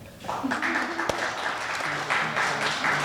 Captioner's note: audience applauding